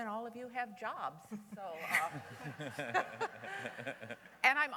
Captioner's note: laughter